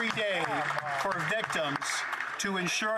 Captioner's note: some Applause